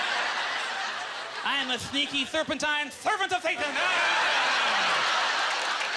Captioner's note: audieeclaughter; lisping; audience laughter